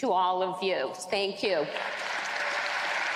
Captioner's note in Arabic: تصفيق